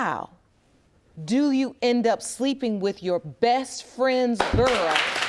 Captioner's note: audience applauds